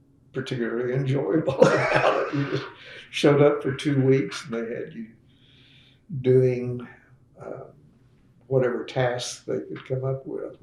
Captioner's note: laughs